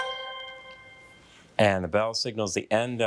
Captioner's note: bell dinging